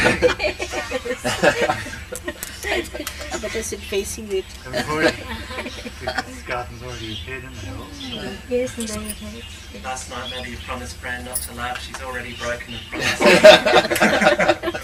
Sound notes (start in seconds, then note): 0.0 shri mataji laughs; 4.6 shri mataji laughs